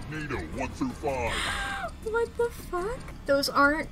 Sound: through laughter

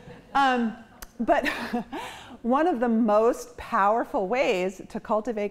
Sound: chuckles

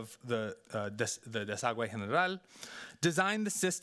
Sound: speaking Spanish

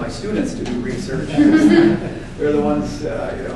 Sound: audience laughing

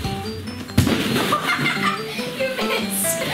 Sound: laughs

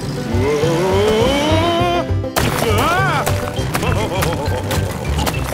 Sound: laughing

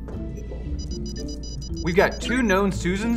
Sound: keyboard beeping

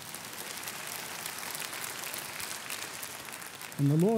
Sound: applauding

